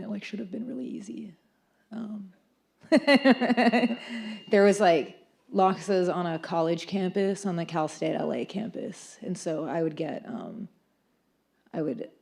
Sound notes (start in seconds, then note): 3.1 laughs